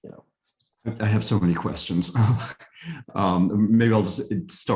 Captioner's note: chuckles